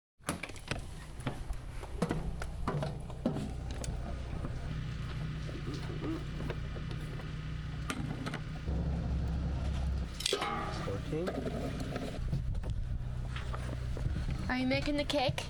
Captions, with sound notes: [footsteps] [crunch] It's okay. [footsteps] Are you making the cake?